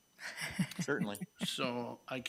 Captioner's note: laughs